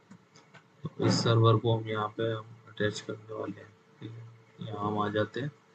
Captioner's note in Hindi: गला साफ़ करने की आवाज़